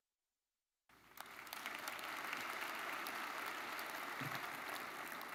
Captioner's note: audience applauding